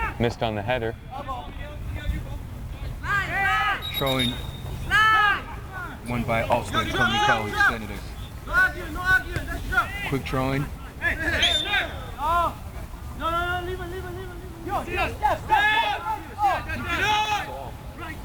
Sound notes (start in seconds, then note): 1.6 players shouting; 3.8 whistle tweeting; 5.5 players shouting; 11.3 whistle tweeting; 15.2 players shouting